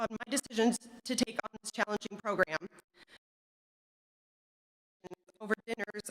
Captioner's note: audio cuts out